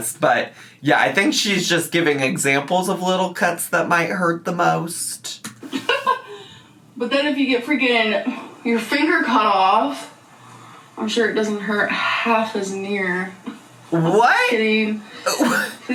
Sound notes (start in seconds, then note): 5.7 giggling